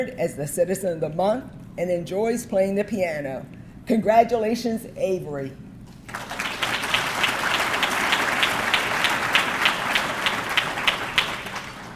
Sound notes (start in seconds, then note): 6.0 audience clapping